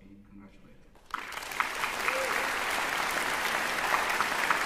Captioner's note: applause